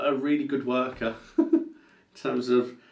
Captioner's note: laughs